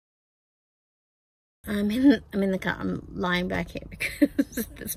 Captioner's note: laughs